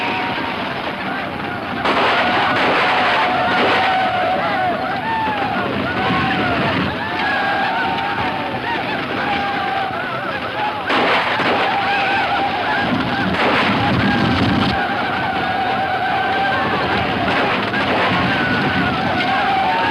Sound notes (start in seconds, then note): 0.1 Indians shouting; 0.1 guns firing; 9.2 guns firing; 16.8 Indians shouting